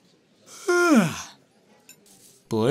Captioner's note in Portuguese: Yawns